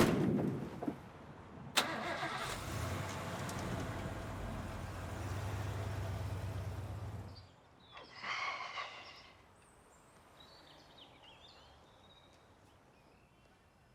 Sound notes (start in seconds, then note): 1.5 sighs; 1.7 engine starts